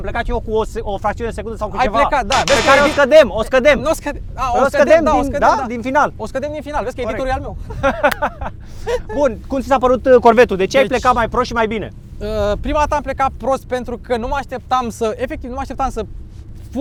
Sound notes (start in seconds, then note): 2.4 disaproving sound; 7.6 they both laugh